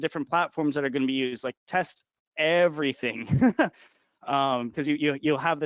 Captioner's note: laughing